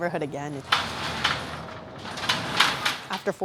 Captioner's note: gate sliding shut